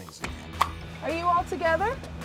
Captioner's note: pop